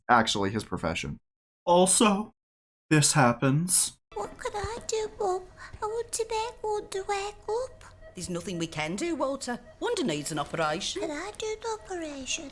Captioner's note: cries a single tear